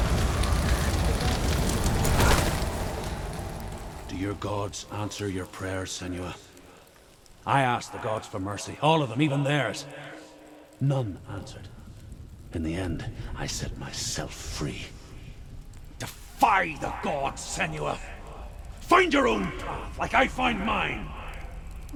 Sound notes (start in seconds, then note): 3.4 sound of flames and commotion fades